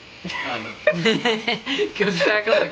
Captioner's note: both laughing